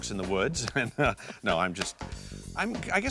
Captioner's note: laughing